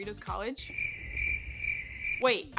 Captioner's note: crickets